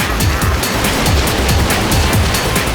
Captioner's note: laughing